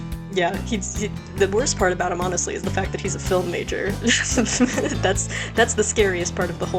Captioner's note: laughs